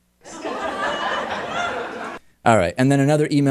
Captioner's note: laugh track